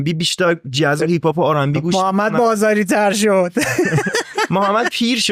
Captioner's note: laughs